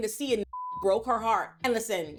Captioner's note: beep